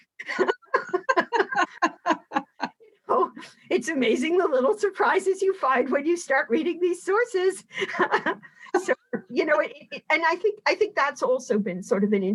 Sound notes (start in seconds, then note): 0.2 both laughing; 8.1 laughing